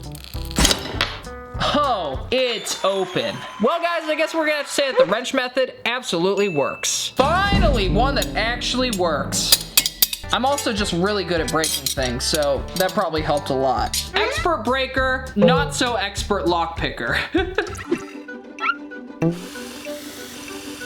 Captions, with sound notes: (metal breaking) Oh, it's open. Well guys, I guess we're gonna have to say that the wrench method absolutely works. (bell dinging) Finally, one that actually works. (wrenches clicking) I'm also just really good at breaking things, so that probably helped a lot. Expert breaker, not so expert lock picker. (laughing) (playful music)